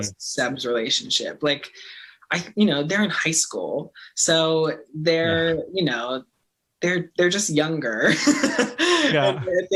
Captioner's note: laughing